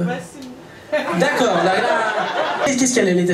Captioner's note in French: rires public